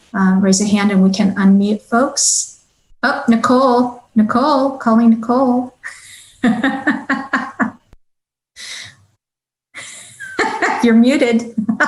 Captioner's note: chuckling